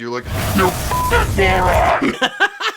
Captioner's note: beeping